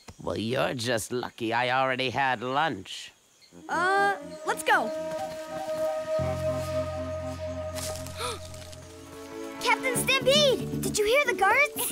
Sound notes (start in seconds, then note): 8.1 gasps